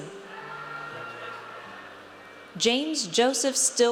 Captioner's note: audience cheers